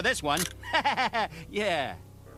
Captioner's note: laughter